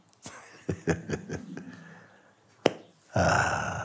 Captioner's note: lacht